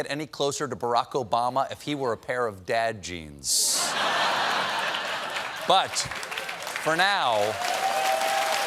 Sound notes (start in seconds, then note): 4.4 applause; 4.4 cheers and applause